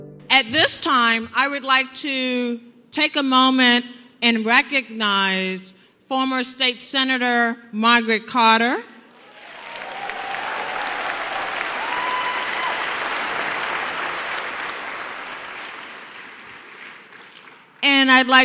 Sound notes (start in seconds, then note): 11.0 applause